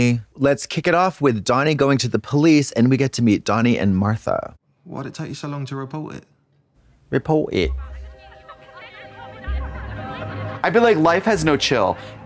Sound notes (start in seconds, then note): 7.3 British accent; 9.0 intense music